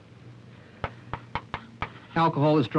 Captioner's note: chalk tapping slate board